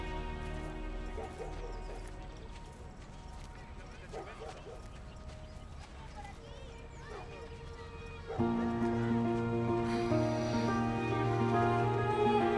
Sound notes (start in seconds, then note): 1.0 Ladridos; 10.7 Música inspiracional